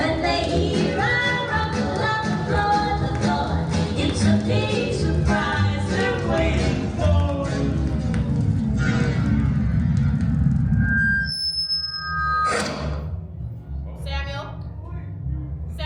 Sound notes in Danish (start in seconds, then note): 11.0 høj lyd-feedback